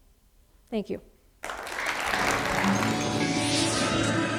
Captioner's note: applause